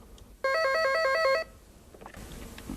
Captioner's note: phone rings